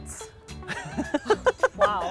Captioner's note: laughs